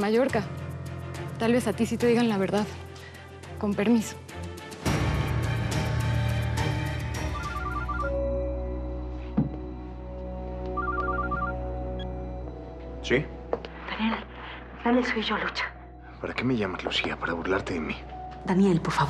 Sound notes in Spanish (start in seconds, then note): 12.7 suena el celular